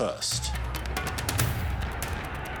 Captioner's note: distant commotion